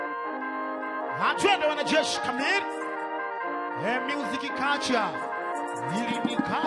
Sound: light music; man speaking in language other than English

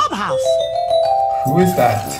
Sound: doorbell

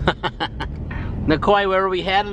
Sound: laughs

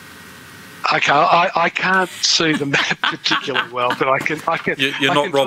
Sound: laughter

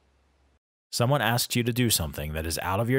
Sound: voiceover

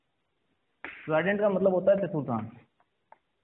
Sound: in hindi

